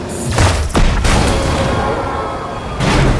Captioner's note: car explodes